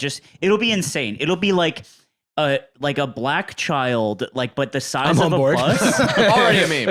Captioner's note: laughs